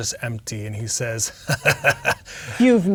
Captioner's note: laughs in character